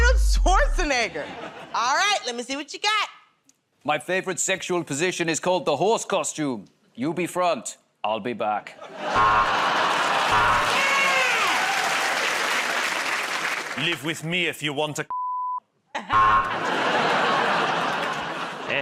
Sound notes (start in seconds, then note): 10.3 buzzer; 12.7 cheers and applause; 16.1 buzzer; 17.8 laughter